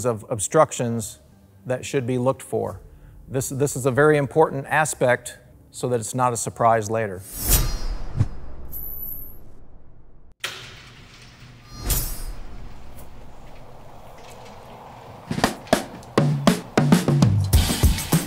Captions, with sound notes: of obstructions that should be looked for. This is a very important aspect so that it's not a surprise later. (sword slicing) (gentle metallic whoosh) (sword slicing) (energetic music)